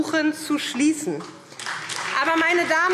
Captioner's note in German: Beifall SPD und DIE LINKE